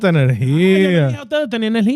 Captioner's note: speaking In Foreign Language